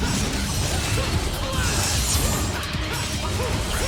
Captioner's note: swords clash